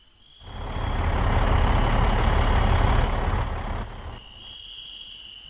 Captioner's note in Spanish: Sonido de carro